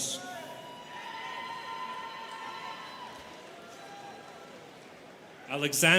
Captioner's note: students cheering